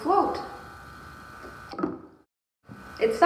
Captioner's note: soft plunk